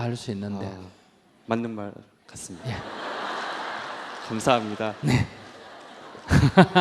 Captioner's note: audience Laughter